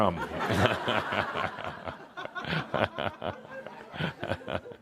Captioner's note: more laughter